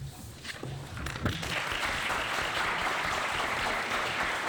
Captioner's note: applause